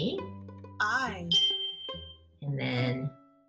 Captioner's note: bell chimes